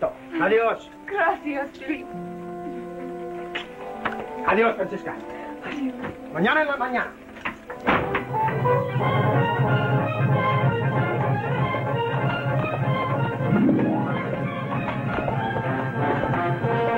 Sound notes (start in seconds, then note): 5.9 Spanish spoken language